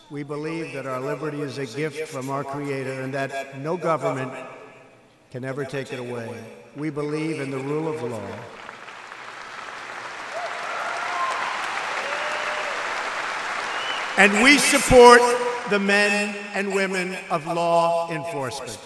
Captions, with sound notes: We believe that our liberty is a gift from our Creator and that no government can ever take it away. We believe in the rule of law -- (Applause.) -- and we support the men and women of law enforcement.